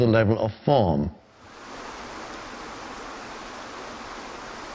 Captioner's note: water gushing